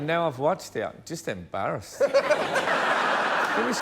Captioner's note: laughter